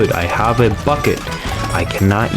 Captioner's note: inhales Oxygen